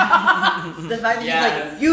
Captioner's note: laugh